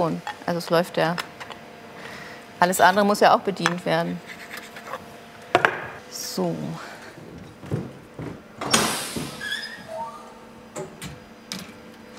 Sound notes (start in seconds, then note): 8.6 hissing, squeaking